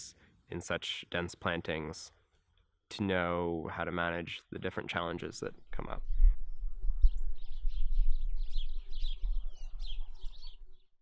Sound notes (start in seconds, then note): 7.9 birds chirping